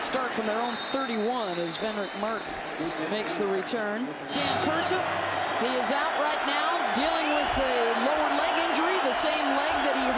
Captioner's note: applause